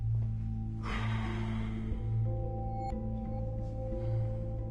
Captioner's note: slGHS DEEPLY